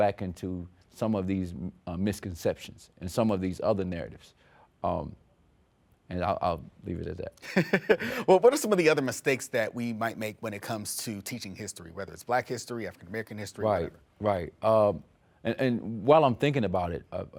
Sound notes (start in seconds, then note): 7.4 laughs